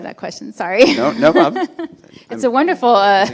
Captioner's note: laughing